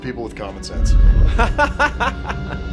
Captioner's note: laughs